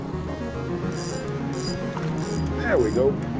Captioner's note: line reeling